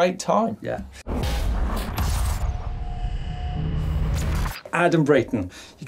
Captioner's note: electric buzzing